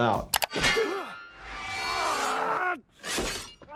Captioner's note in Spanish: Wolverine gruñendo